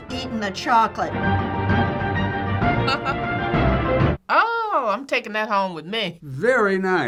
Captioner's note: laughing